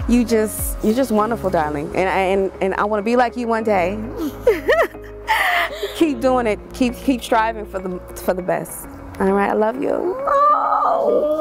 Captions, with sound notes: You just wonderful darling and I wanna be like you one day. (laughs) Keep doin' it, keep striving for the best. Alright, I love you. - Oh.